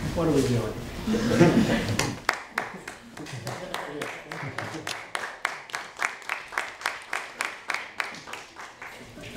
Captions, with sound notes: what are we doing? (audience applauding)